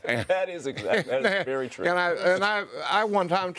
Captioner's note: pundits laughing